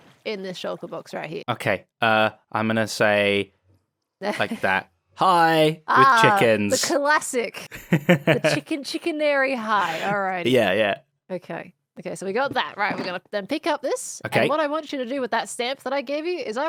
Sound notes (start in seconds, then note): 7.7 laughs